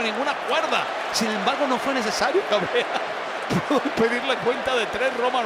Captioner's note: laugh